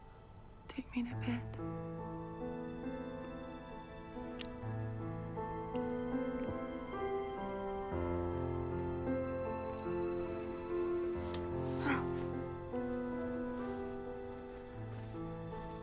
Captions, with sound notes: - Take me to bed. (lips smacking) (romantic music)